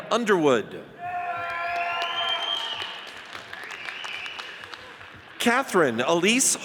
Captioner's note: audience cheers and applauds